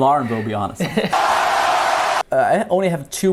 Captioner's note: crowd applauds